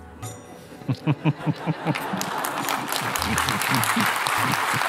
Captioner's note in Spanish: risas y aplausos